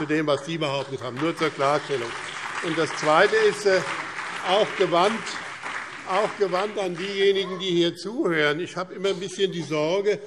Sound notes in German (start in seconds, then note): 1.5 Beifall BÜNDNIS 90/DIE GRÜNEN und CDU